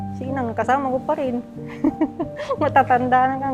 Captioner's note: laughs